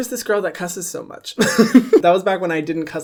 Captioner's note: laughs